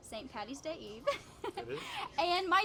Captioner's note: laughs